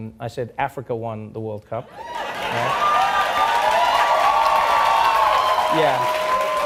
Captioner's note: audience cheering and applauding